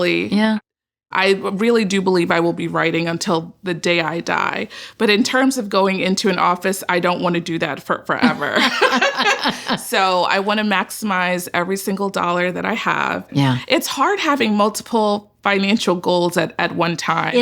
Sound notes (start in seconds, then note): 8.2 laughs